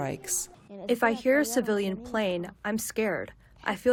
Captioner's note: through translator